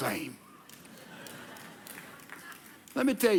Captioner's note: audience laughing